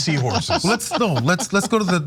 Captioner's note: laugh